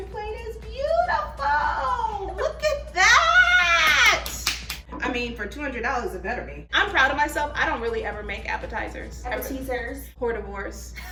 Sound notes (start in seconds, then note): 3.8 both clapping